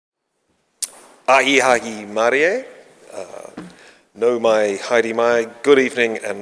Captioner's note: speaking in foreign language